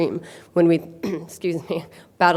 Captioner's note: clears throat